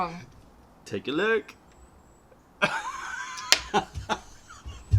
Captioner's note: laughter